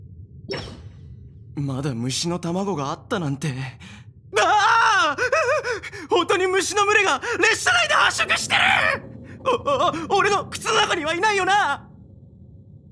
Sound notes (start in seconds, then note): 7.4 gasp